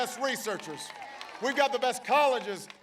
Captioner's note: applause